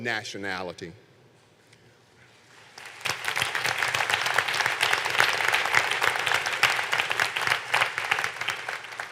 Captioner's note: applause